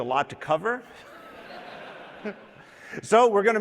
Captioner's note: laughter